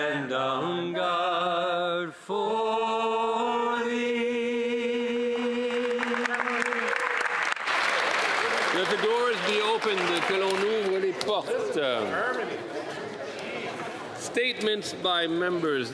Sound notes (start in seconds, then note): 11.5 applause